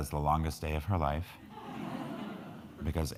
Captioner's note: crowd laughing